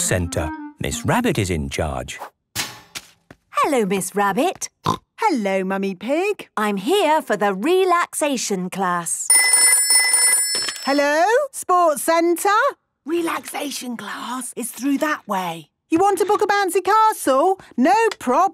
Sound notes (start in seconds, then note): 4.1 snorting; 9.3 phone ringing